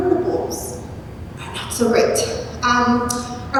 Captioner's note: speaking off microphone